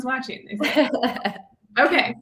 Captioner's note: laughs